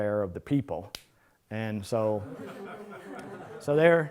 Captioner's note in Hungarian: Nevetés